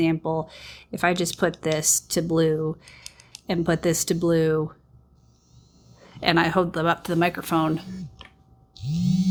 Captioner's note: buzzing